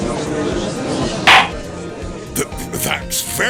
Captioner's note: gallery chattering; gavel slams!